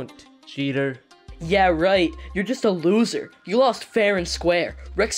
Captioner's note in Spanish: Voz a través del pinganillo